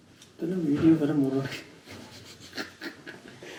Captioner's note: laughs